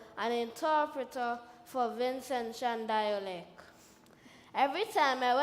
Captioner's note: none